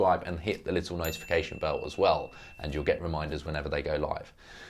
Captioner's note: bell ringing